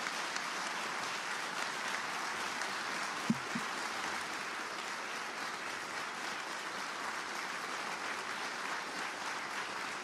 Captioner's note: applause